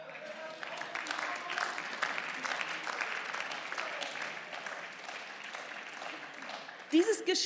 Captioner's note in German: Beifall